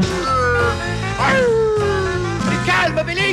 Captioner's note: random screams of crazy wolves, impossible to translate